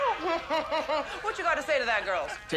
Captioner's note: chuckles